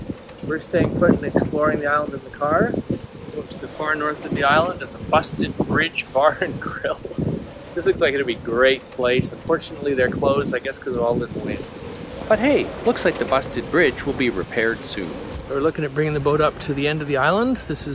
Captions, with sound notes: We're staying put and exploring the island in the car. Going to the far north of the island at the Busted Bridge Bar and Grill. (laughs) This looks like it would be a great place. Unfortunately, they're closed. I guess because of all this wind. But hey, looks like the busted bridge will be repaired soon. They're looking at bringing the boat up to the end of the island.